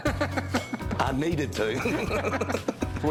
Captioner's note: laughter